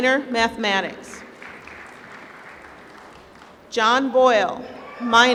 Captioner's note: applause